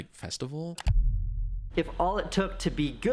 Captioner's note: computer mouse clicking